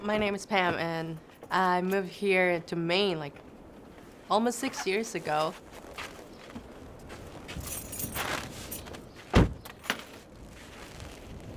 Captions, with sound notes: - My name is Pam, and I moved here to Maine almost six years ago. (keys jingling)